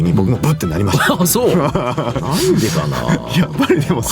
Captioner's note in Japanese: 笑い